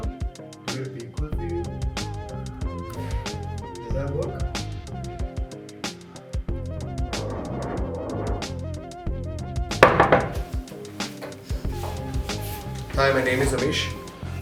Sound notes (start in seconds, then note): 9.8 knocks on a door